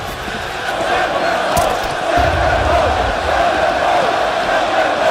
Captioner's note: crowd chanting